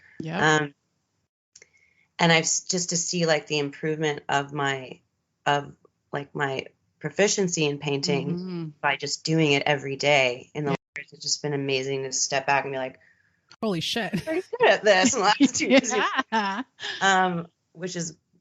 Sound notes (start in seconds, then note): 15.0 both giggling